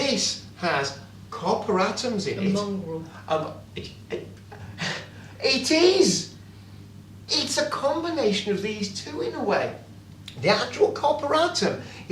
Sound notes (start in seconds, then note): 3.9 stutters